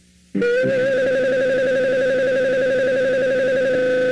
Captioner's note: high-pitched buzzing